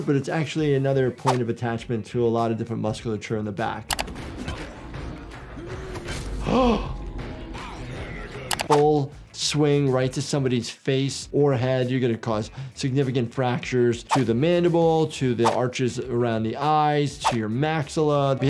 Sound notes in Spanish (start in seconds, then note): 6.3 Doctor jadeando